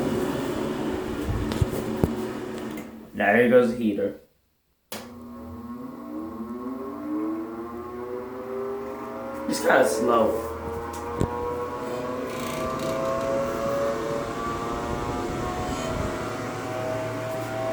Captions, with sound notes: Now here goes the heater. (*The heater starts up*) It's kinda slow.